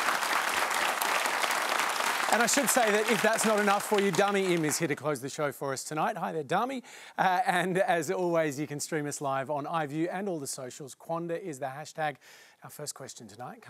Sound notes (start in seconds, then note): 4.8 cheering and applause